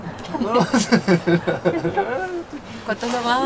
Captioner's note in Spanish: Risas